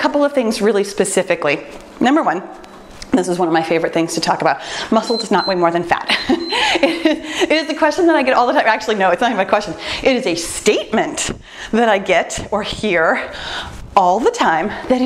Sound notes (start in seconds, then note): 4.9 timer beeps; 6.1 laughs